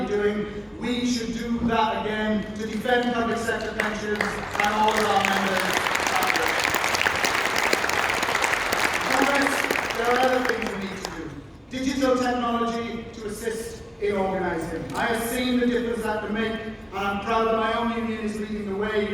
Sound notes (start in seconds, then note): 6.1 applause